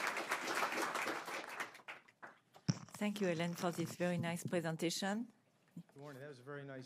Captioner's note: applause